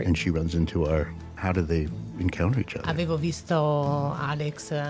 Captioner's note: speaks in Italian